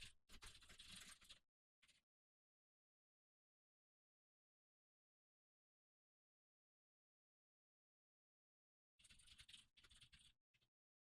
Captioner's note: typing sounds